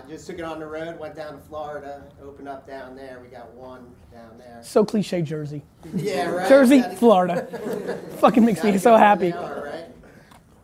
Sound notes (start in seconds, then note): 6.9 laughter